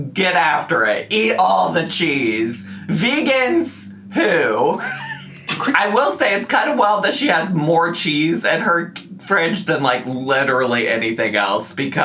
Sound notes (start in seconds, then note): 4.1 laughs